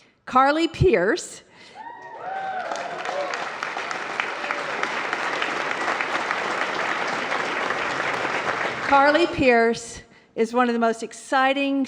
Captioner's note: applause